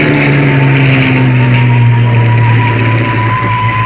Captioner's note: bomb whistling